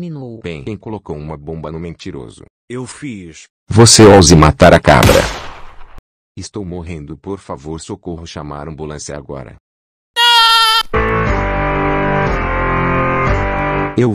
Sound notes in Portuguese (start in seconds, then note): 4.9 tiros